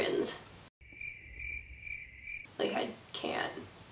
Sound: crickets chirping

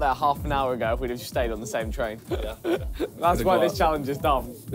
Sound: laughs

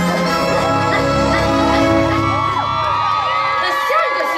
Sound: witch Laughing; audience Cheering

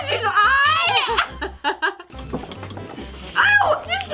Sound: laughing

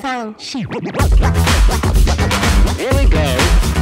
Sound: record scratching

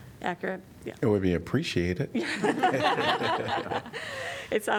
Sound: laughter

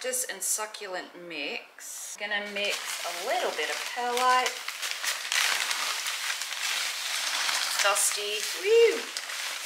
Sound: plastic noise

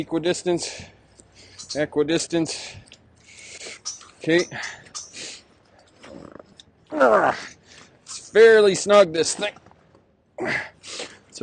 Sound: straining to stretch bungees

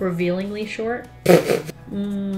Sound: ppffftt

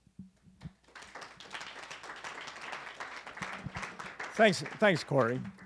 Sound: clapping

